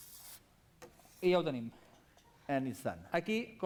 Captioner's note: non-english speech